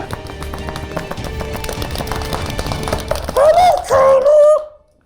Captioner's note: tense dramatic music; hands slapping